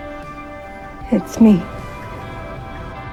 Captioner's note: voiceover